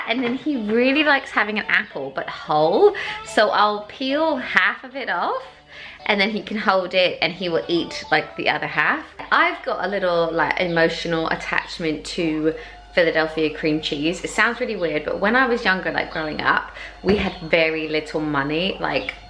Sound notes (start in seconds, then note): none